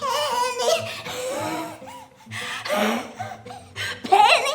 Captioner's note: gasping